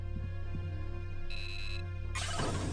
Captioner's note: beeping